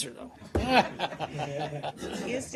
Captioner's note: laughter